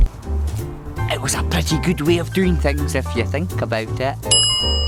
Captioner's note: ding!